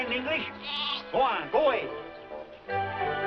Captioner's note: bleating